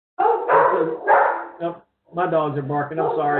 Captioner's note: dog barks